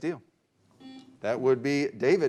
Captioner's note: beep